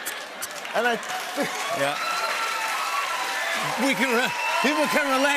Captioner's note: laughter; cheers and applause